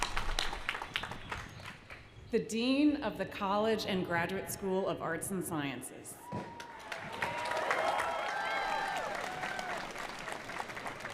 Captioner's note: applause